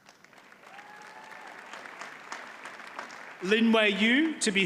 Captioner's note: audience applauds